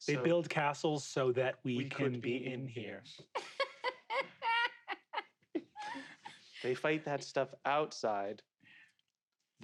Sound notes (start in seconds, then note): 3.3 laughs